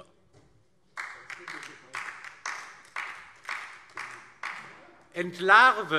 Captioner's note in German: Beifall DIE LINKE